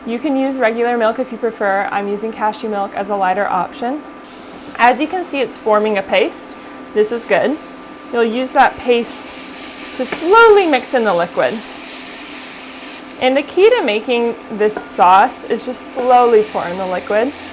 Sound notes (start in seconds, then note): 4.3 sizzling